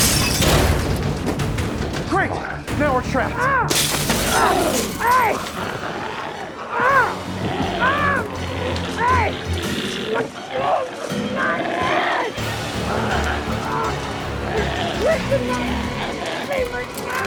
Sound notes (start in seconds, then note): 0.0 glass shatters; 3.6 glass shatters; 5.6 Tector screaming; 5.6 screams